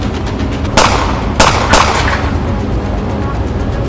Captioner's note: gun firing